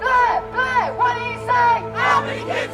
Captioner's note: chant; loudspeaker; chant